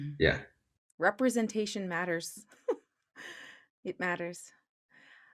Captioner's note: chuckles